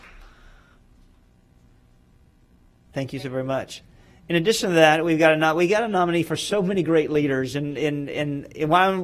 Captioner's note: applause